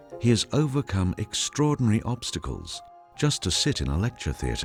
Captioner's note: sombre piano music; voiceover